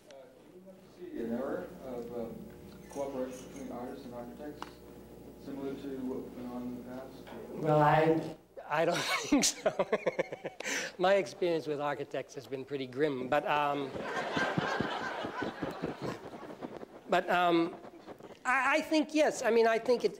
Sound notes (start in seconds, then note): 8.9 laughs; 13.8 laughter